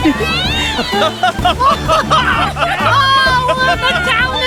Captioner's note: all Laughing